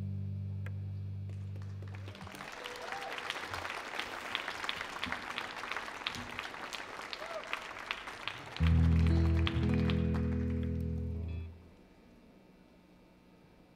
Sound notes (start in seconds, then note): 1.8 audience applauds